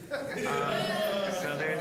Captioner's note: audience laughing